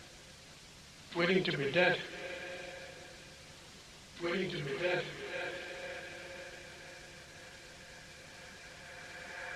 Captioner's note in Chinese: 回音